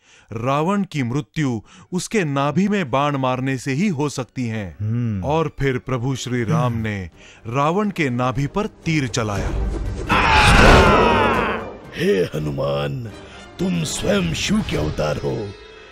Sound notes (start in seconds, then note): 10.1 groans